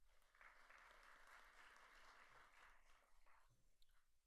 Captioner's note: audience applauds